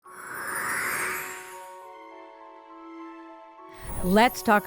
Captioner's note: gentle music; air whooshes